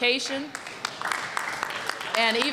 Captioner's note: applause